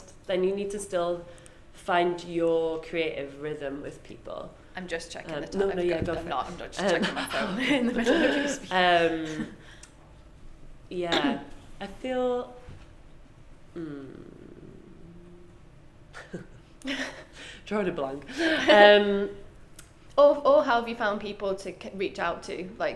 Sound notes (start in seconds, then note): 6.8 both laugh; 13.8 laughs